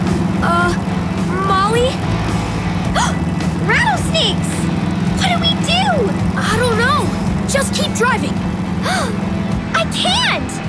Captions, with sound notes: Uh, Molly... [gasping] Rattlesnakes! What do we do? I don't know, just keep driving. [gasping] I can't.